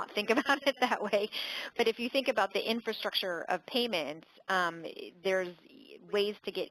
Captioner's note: laugh